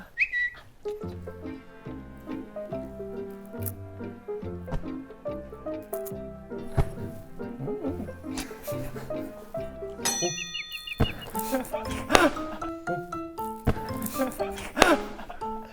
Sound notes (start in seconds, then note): 3.2 Crunch; 5.8 Crunch